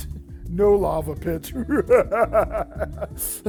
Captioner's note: spooky laughing